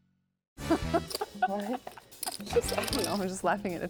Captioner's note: laughing